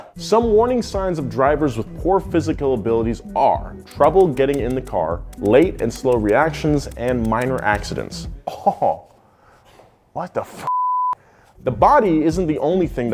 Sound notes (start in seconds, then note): 10.7 beep